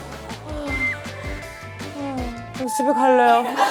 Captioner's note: sighs